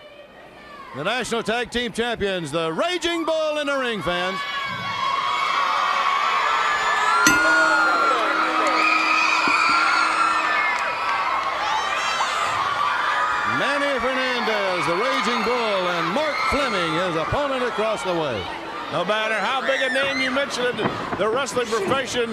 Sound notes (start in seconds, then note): 6.1 crowd cheering; 7.2 bell ringing